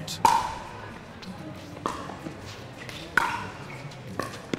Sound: ball bouncing

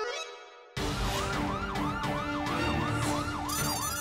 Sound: siren blaring

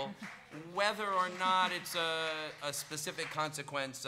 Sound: audience applauding

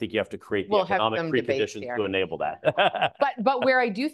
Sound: laughs

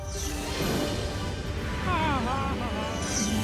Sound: laughing

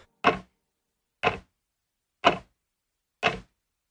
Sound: clock ticking

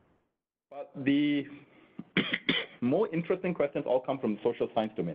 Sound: coughing

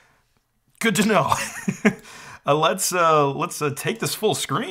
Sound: chuckles

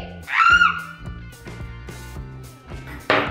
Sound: screaming

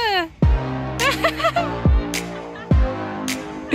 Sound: laughing

